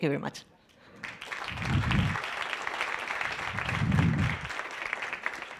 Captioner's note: audience applauds